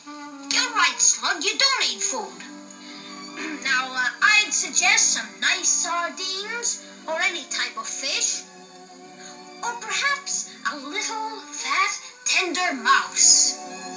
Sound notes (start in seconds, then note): 3.4 clears Throat